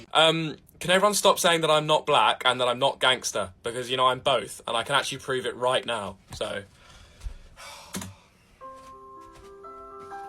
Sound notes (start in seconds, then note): 7.5 sighs